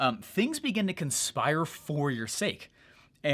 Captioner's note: none